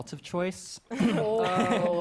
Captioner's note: clears throat